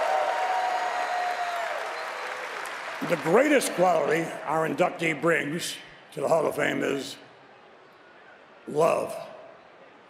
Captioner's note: cheers and applause